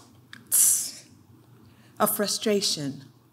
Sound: clicks

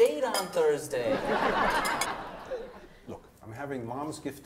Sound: audience laughs

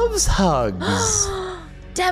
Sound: gasping

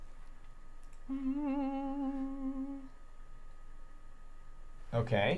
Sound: humming nervously

